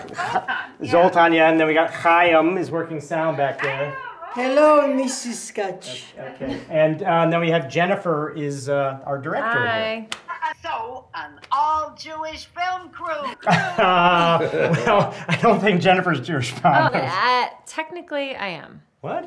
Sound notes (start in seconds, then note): 13.3 all laugh